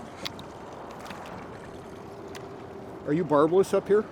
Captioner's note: fish splashing